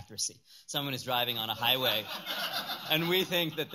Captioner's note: laughter